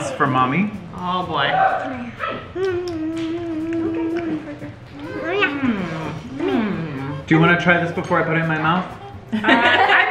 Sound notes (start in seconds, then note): 2.4 making mouth noises